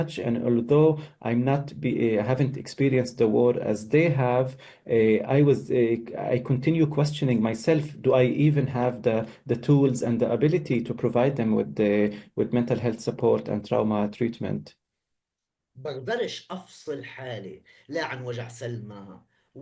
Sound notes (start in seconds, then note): 15.5 speaking arabic